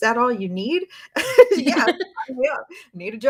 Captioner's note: laughs